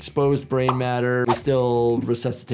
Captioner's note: graphics popping; graphics swishing